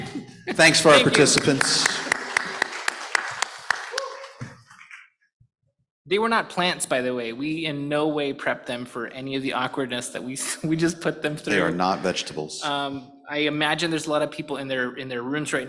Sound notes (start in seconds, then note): 0.6 applause